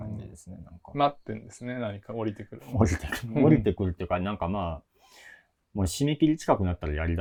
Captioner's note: laugh